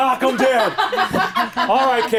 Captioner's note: laughing